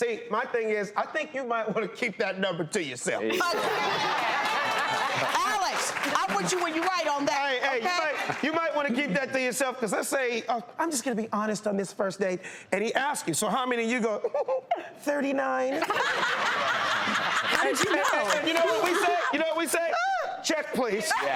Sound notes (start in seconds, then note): 3.3 audience laughs; 14.2 giggles; 15.8 laughing